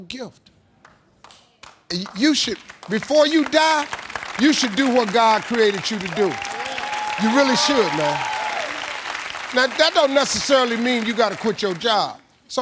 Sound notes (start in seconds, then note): 0.3 audience applauding; 8.4 audience cheering